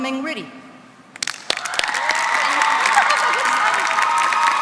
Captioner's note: applause